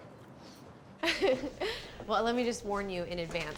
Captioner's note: laughs